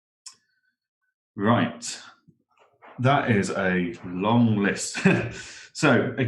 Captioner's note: laughs